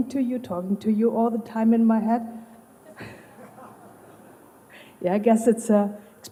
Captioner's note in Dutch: gelach